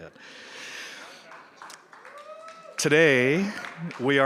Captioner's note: crowd cheers